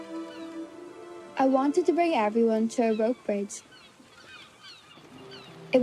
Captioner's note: voice-over